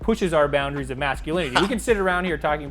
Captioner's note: laughs